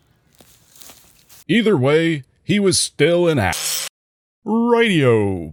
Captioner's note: zzz - grinder noise